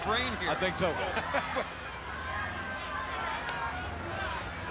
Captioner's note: people laughing